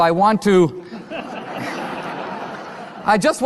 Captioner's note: audience laughter